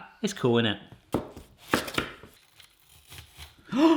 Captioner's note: knife knocking; gasping